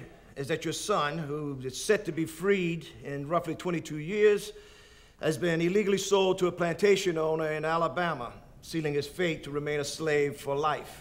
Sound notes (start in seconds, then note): none